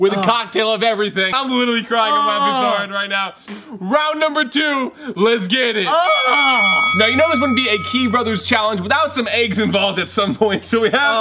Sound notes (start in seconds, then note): 5.9 bell dinging